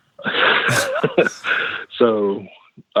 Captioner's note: both laugh